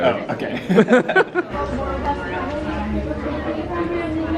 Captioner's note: they laugh